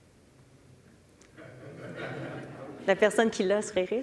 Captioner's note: public laughing